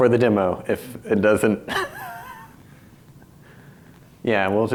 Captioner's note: laughs